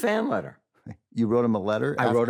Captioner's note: scoffs